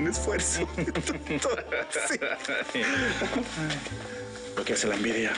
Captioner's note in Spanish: Risas